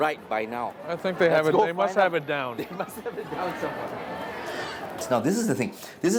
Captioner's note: laughs